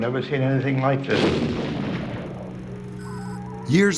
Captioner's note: firing